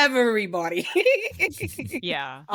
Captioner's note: laughing